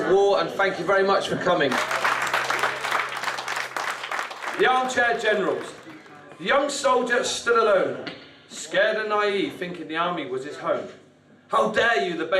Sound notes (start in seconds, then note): 1.6 audience clapping